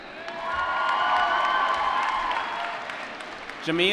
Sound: applause

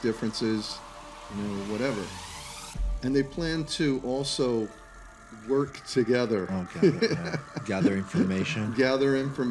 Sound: laughter

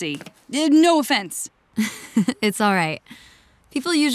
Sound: chuckles

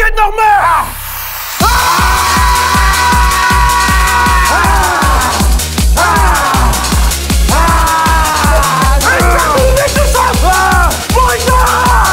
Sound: wild male shouting

